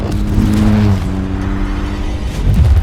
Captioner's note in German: Motorheulen; dramatische Musik